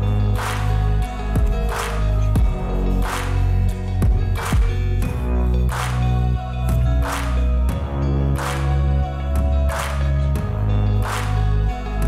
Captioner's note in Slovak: Potlesk